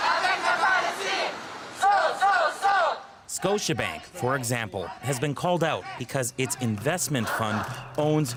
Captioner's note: chanting